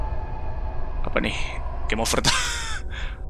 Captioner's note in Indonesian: ketawa